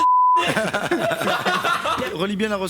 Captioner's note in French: rires